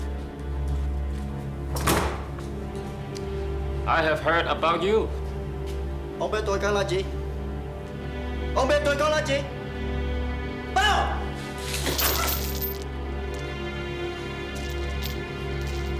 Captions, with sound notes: I have heard about you. [SPEAKING VIETNAMESE] Bow!